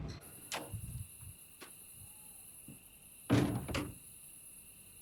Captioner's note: crickets chirping